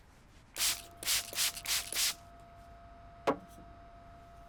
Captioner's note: bottle sprays